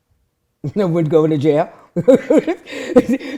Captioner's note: laughing